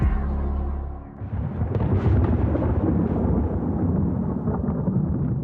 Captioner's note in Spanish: Truenos